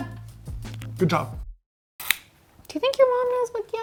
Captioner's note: device clicking